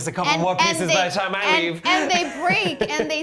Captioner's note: laughs